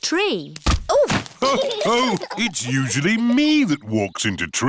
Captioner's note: others laugh